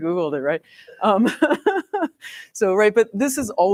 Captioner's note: laughs